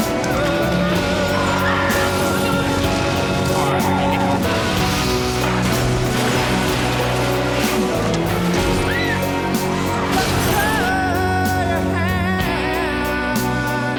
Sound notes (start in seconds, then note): 8.5 screams